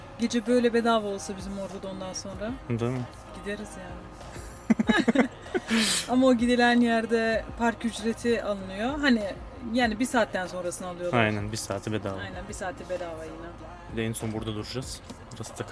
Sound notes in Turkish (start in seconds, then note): 4.4 kahkaha